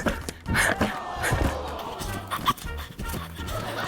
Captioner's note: audience exclaims